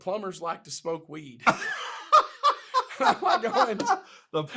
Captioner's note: laughs